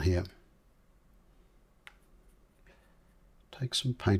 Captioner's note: silence